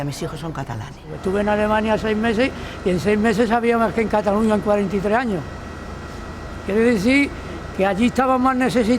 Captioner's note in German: auf Spanisch